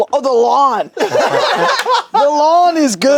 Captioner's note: group laughs